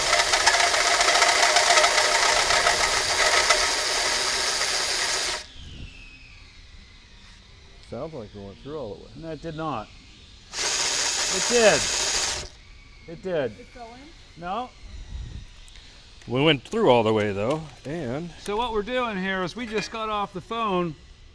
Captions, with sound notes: Sound like it went through. - No, it did not. (drill buzzes) It did. It did. - Did it go in? - No. - We went through all the way though, and. - So what we're doing here is we just got off the phone.